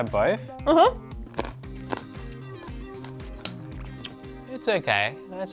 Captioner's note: munching loudly